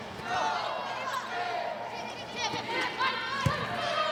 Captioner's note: players shouting indistinctly; ball thumping